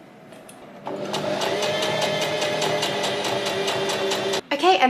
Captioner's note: sewing machine surges